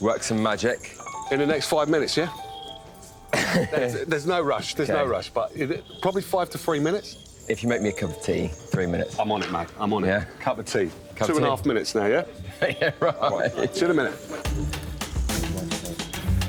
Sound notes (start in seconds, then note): 3.3 laughs; 15.5 laughs